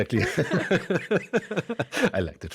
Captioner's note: both laugh